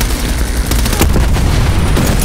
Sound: gunshots

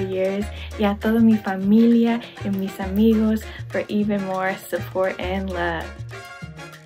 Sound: speaks in foreign language

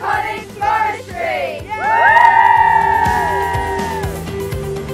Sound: cheers

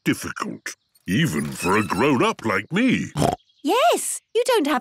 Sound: snorts

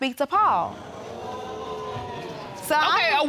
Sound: audience groaning

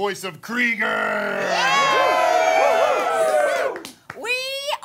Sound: cheering

